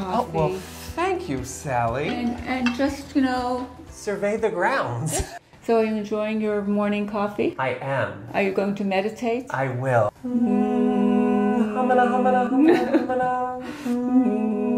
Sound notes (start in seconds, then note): 10.4 humming